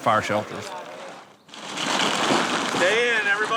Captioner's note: crumpling